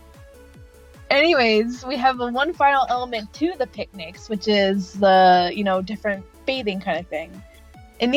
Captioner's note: none